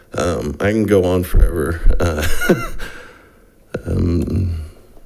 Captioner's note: laughs